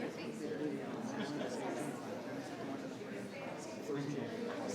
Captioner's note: people chattering